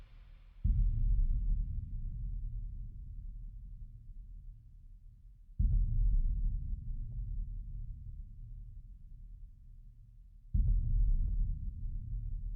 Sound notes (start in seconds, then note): 0.5 booming kick; 5.5 booming kick; 10.5 booming kick